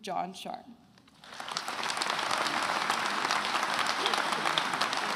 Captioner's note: attendees applauding